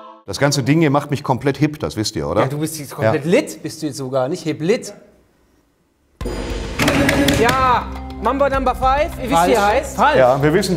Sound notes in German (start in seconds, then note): 6.2 Gong